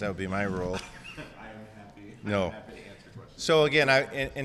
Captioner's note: laughs